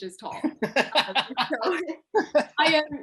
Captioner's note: laughter